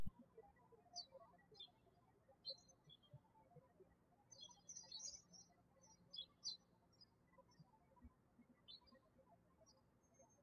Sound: birds chirping

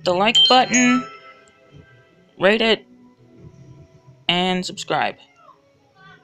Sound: phone alert sound

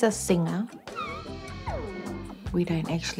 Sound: squeals

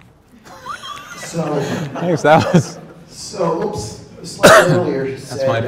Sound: crowd laughing

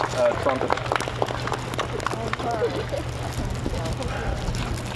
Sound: applause

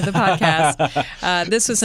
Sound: laughter

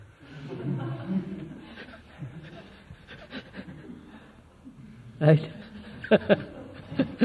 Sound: laughter; laughs

